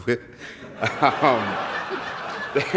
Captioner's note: laughs